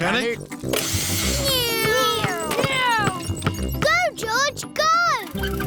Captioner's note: whirring